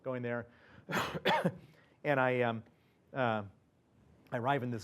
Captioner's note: cough